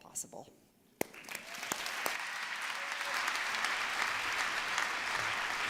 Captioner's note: applause